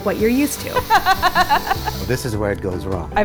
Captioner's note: laughing